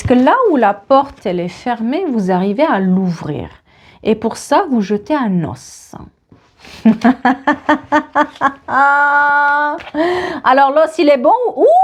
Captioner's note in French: rires